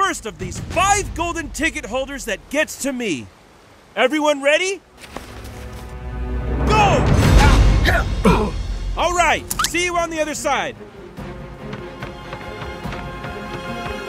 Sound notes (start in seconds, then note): 7.6 grunts; 11.3 ominous music